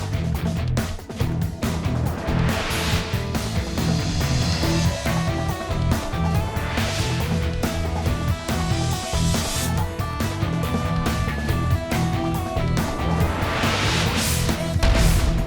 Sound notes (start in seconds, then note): 1.7 graphic whooshing; 4.2 upbeat music; 7.1 graphic whooshing; 8.4 upbeat music; 9.8 graphic whooshing; 11.3 upbeat music; 12.4 graphic whooshing; 15.2 upbeat music